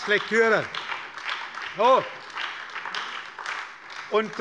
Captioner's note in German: Beifall bei der SPD und der LINKEN